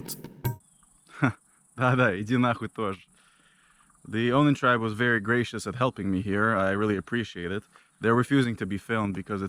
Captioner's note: speaks in local language